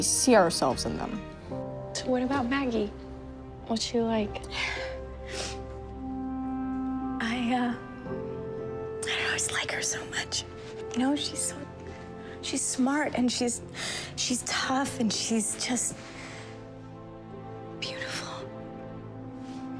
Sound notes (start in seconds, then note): 5.2 sniffs